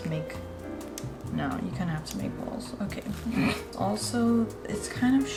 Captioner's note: laughs